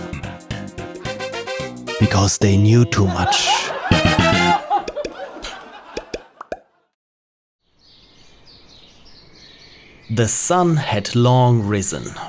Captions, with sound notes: Because they knew too much. [laughter and music] [birds chirping] The sun had long risen